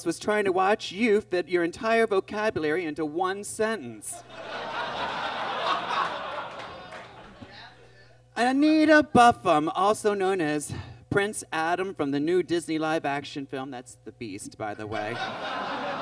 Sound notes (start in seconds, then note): 4.2 audience laughs; 14.9 audience laughs